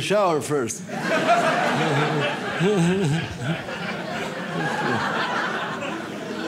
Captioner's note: audience laughs